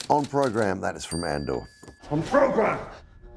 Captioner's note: bell chimes